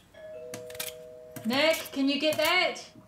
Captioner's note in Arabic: رنين جرس الباب